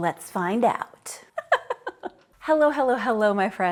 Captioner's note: laughing